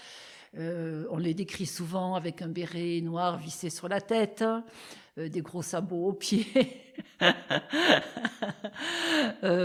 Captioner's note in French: rires